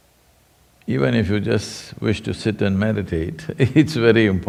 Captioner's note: laughs